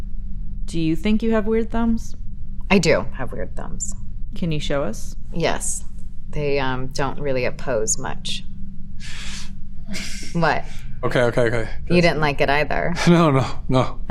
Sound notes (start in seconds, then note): 9.0 gasping